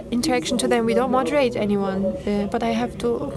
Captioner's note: speaking foreign language